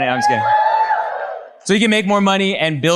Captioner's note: audience cheers